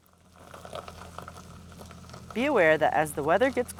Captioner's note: tires scraping on gravel